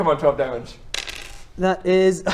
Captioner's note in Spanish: tirada de dados